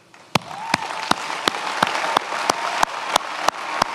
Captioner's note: many applauding